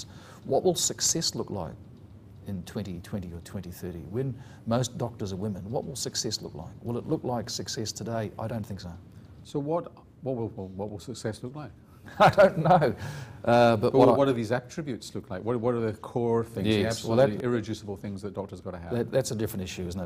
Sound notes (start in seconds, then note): 12.1 laughs